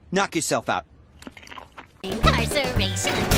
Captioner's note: nom nom nom